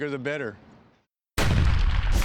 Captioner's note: explosion